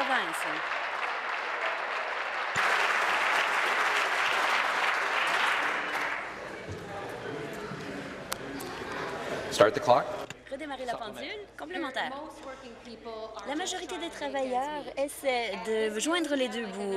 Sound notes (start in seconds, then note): 3.3 applause